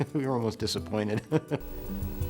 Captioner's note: laughter